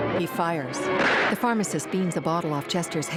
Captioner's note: gunshots